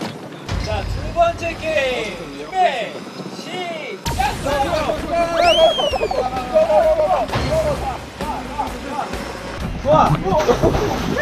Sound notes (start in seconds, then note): 4.8 running